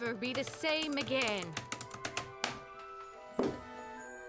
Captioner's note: typing stops